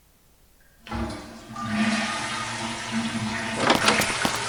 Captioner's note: toilet flushing; door opening and closing